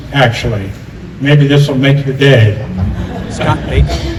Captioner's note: laughter